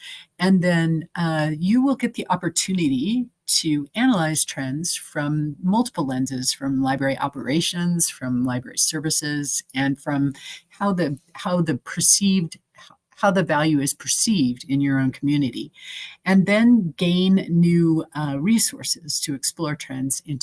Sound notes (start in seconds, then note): none